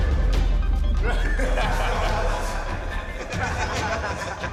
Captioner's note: laughter